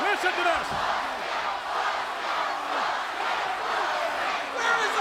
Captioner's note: audience continues chanting